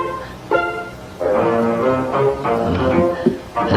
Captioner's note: chuckles